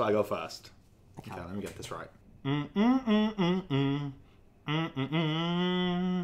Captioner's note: humming rhythmically